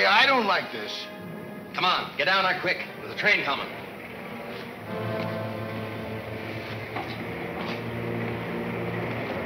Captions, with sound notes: - Come on, get down there quick. There's a train coming. (train rumbling)